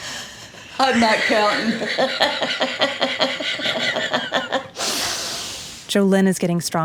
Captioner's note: laughs